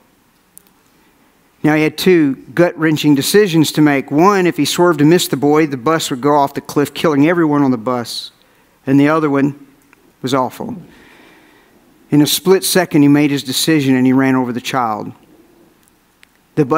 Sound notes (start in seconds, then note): none